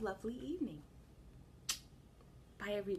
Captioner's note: kiss